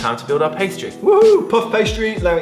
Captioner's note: cheers